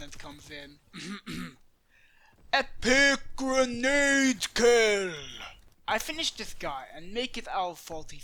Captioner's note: clearing throat